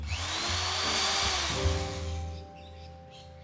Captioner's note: drill whirring